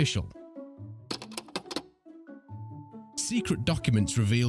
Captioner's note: gentle music; film clicks